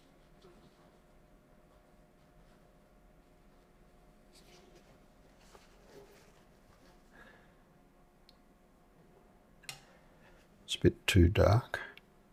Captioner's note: silence